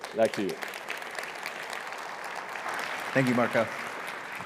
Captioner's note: audience applauds